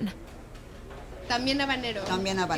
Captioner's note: speaking Spanish